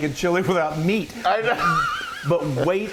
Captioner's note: laughs